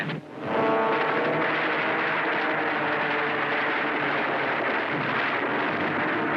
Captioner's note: plane engines roar; gunfire